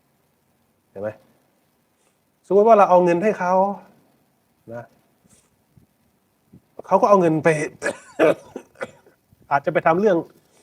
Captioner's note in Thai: เสียงหัวเราะ